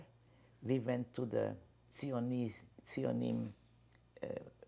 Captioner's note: hebrew